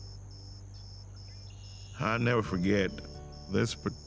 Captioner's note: insects chirping